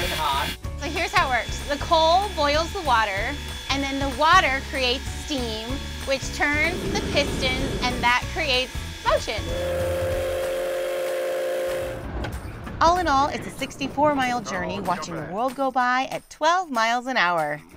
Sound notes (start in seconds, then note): 9.1 train whistle